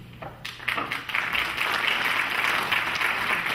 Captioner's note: clapping